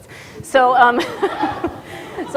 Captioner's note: audience laughter